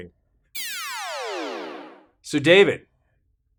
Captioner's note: electronic noise